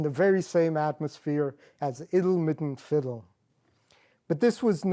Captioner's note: non-english